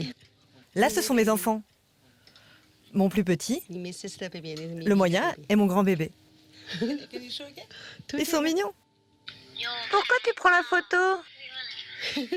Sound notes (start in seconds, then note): 8.4 speaking foreign language; 9.6 child speaking foreign language